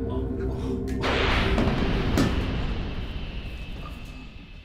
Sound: sound of gas releasing from canister

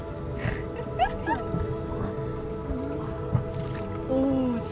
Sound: laughs

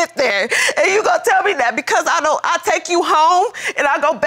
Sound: sobbing

